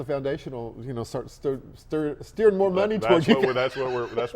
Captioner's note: laughs